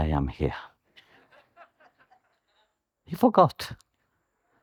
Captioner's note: the audience laughs